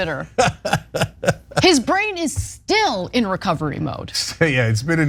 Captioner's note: laugh